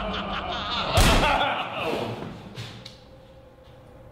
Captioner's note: gunshot